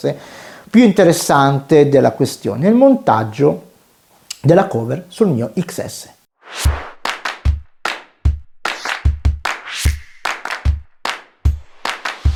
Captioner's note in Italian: Applauso